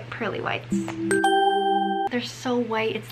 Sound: pleasant dinging

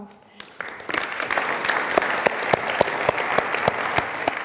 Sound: audience applauding

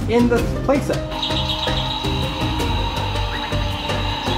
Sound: birds chirping

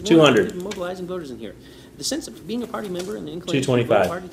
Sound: fast reading

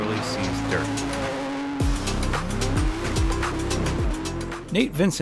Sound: car engine roaring; bright upbeat music

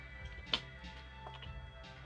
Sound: his lips smack

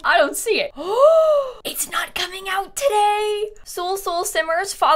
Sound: gasps

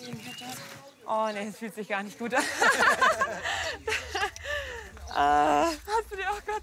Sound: laughter

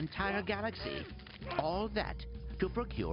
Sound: grunting

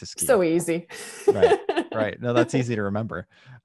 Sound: laughter

